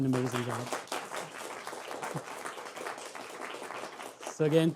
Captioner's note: audience clapping